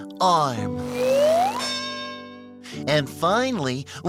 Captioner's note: bell dings